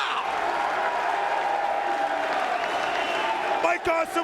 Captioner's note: crowd cheering